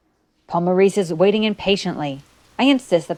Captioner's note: light rain